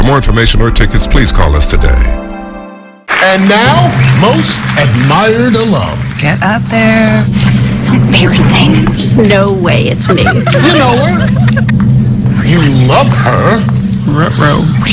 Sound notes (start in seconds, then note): 10.0 friends laughing